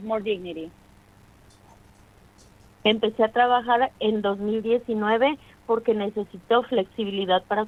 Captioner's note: speaking in spanish